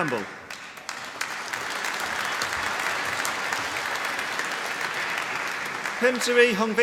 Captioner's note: applause